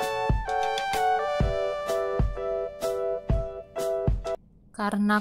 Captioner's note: clapping hand